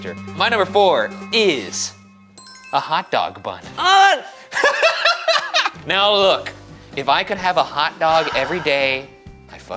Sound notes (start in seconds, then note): 2.4 bell chiming; 4.5 laughing